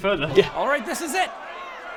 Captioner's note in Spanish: ruidos de turba enojada